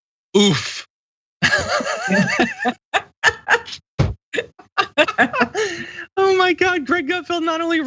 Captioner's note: laugh